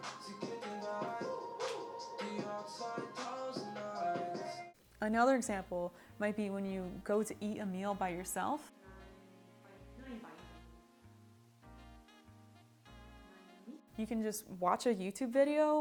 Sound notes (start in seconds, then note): 0.0 German music; 11.9 speaking in German